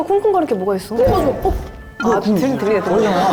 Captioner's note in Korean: 쿵.쿵